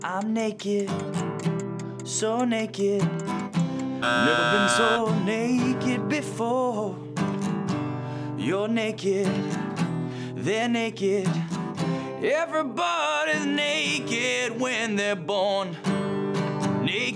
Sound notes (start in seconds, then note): 4.0 timer buzzing